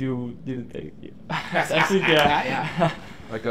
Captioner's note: laughs